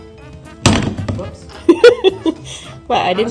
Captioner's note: laughter